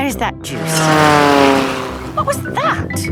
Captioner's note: plane flies